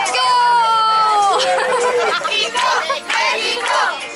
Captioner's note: laughter